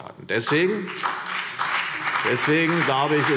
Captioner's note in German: Beifall CDU und BÜNDNIS 90/DIE GRÜNEN